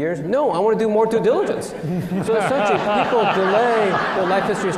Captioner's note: laughter